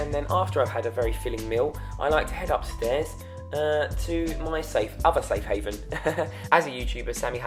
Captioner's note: laughs